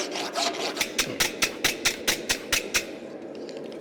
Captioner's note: metal scraping against the brush